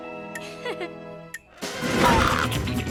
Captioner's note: Lizbeth laughing; adventurous music; logo whooshing